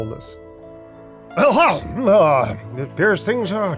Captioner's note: grunts